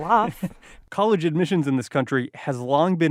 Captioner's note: chuckles